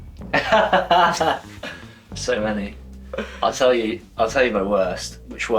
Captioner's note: laughs